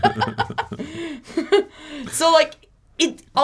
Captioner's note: both laugh